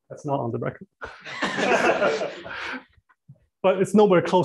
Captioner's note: laughter